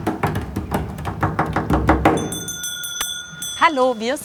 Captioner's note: loud hammering, ringing